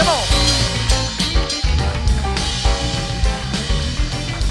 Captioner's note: cheers and applause